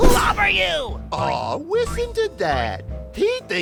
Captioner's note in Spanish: Burlescamente